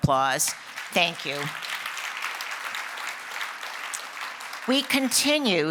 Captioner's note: applause